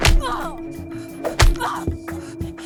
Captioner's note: elbow thudding; Hope grunting; elbow thudding; Hope grunting